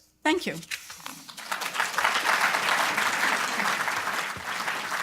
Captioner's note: applause